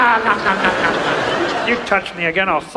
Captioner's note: audience laughs